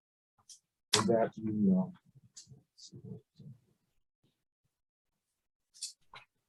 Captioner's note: speaking faintly